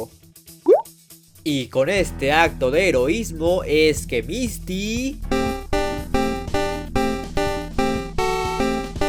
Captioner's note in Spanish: Sonido de boop